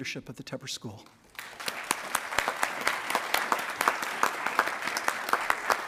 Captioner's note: attendees applauding